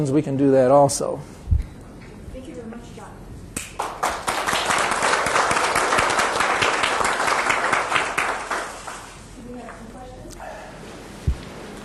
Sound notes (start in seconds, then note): 3.7 audience applauding